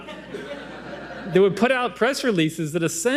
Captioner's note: audience laughing